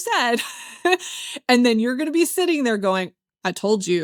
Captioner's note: laughs